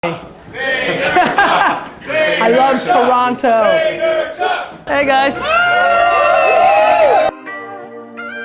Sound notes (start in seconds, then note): 0.8 Gary laughing; 5.1 crowd cheering; 7.2 light music